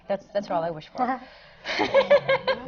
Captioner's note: laughs